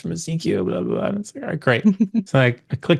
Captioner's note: chuckles